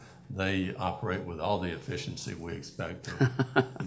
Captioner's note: laughter